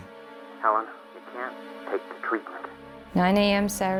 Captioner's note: on phone